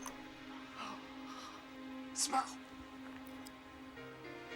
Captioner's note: sighs